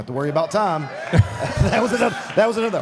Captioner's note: audience applauding